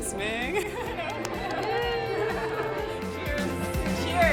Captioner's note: crowd applauding